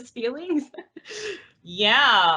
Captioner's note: laughs